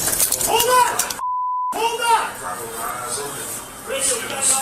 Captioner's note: blinds clatter; beep